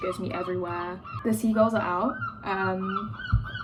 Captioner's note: seagull noises in background